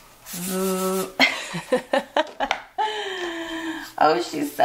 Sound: laughs

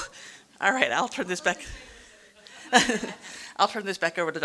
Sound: murmurs; audience laughing

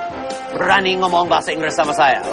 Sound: non-english speech

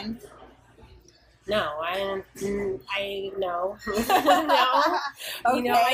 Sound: laughter

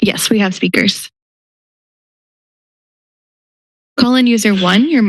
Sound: silence

